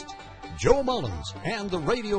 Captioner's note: voiceover